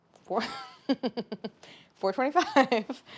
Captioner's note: laughs